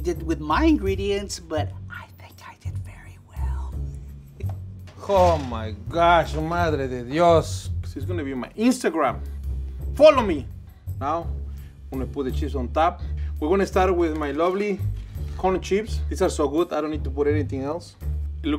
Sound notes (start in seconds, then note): 4.5 laughs; 6.1 speaks in foreign language